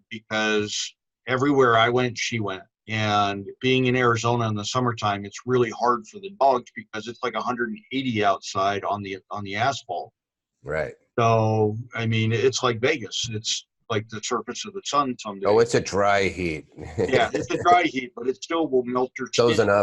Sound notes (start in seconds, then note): 15.5 laughs; 19.4 laughs